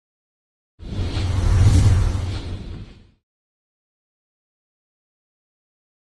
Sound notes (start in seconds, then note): 0.8 graphics whooshing